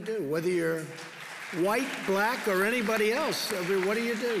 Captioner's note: applause